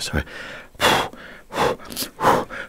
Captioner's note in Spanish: suspiro profundo